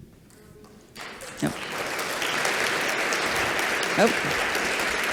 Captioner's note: applause